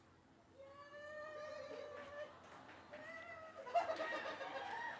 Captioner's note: cheering